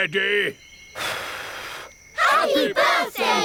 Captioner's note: blows